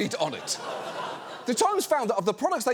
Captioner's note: audience laughs